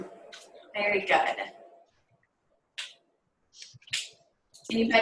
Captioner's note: silence